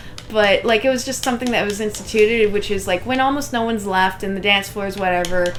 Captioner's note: none